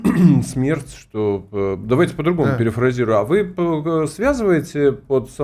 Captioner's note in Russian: откашливается